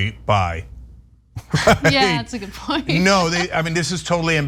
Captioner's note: laugh